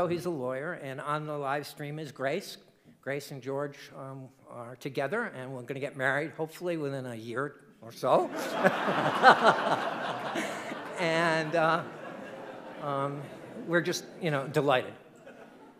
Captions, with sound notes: he's a lawyer and on the livestream is Grace. Grace and George are together and are gonna get married hopefully within a year or so. (audience laughing) And we're just, you know, delighted.